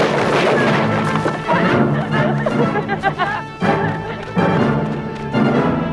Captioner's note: Hundra and tracima laughing